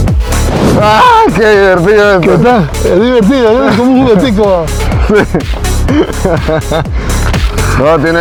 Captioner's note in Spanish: risas